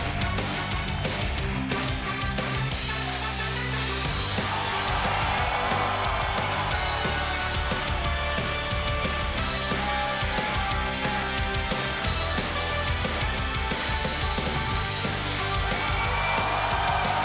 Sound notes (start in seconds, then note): 5.5 cheers & applause